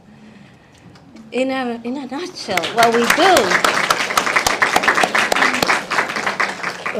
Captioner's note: audience applauding